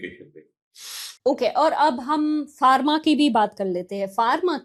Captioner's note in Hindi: नाक से की जाने वाली आवाज़